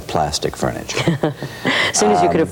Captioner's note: laughs